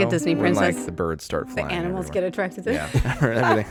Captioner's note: laughing